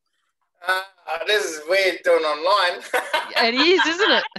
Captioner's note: laughs